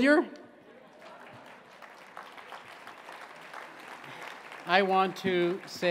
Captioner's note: scattered applause